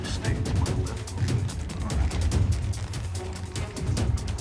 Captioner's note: whispering softly